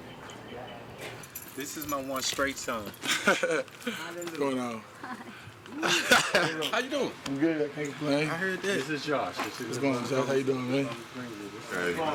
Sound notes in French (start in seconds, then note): 3.0 Rires